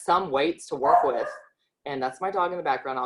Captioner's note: dog barking